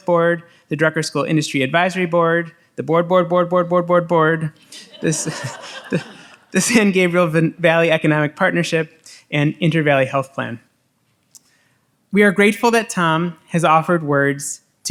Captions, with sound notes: board, the Drucker School Industry advisory board, the board, board, board, board, board, board, board. (audience laughs) The San Gabriel Valley Economic Partnership and Inter Valley Health Plan. We are grateful that Tom has offered words